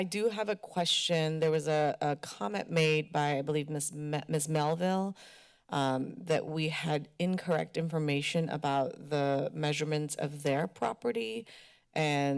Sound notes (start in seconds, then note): none